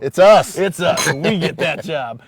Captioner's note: glass clinking